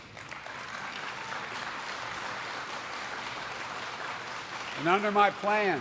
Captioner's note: applause